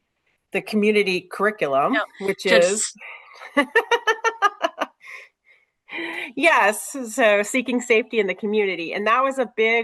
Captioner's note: laughs